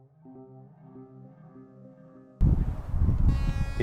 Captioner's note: soft music; thunder rumbling